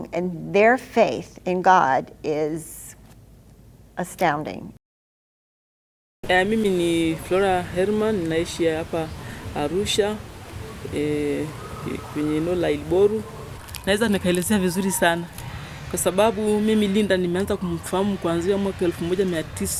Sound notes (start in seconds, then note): 6.3 speaking in foreign language